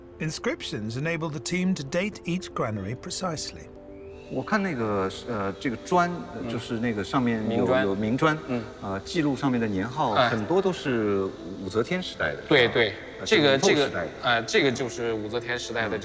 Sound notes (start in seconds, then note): 4.4 speaking in foreign language